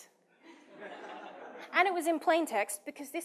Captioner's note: participants laughing